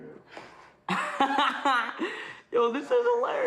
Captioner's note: laughs